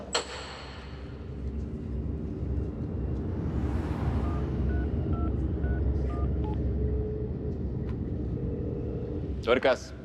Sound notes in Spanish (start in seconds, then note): 6.0 sonido al marcar